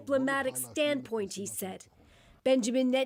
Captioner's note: speaking alternate language